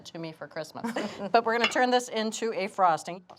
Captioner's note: chuckles